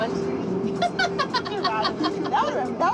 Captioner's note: laughter